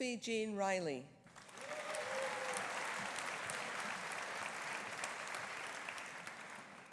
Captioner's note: audience applauding; audience cheering